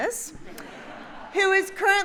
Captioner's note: audience laughs